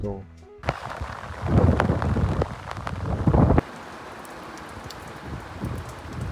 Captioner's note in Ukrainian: оплески